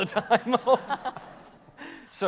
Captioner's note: audience laughter